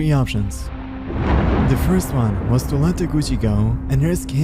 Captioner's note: thunder crackling